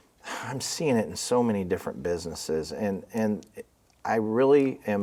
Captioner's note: sighs